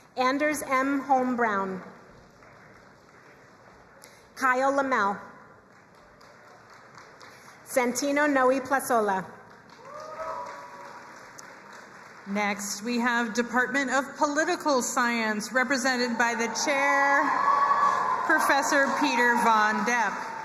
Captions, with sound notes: Anders M. Holm-Brown. (crowd applauding) Kyle Lamell. Santino Noe Plazola. (crowd cheering and applauding) - Next we have the Department of Political Science represented by the Chair Professor Peter VonDoepp.